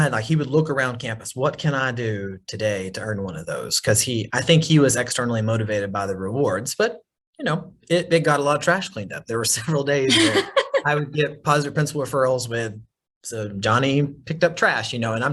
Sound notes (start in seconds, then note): 10.0 laughs